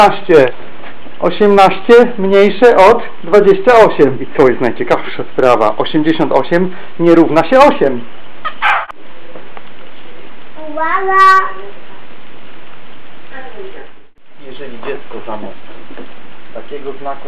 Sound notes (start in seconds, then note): 7.3 sound of kiss